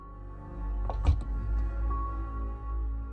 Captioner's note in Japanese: 扉の開閉音：バタン